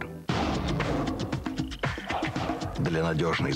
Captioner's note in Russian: рычание